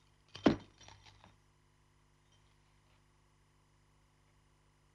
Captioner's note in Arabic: صوت الأصفاد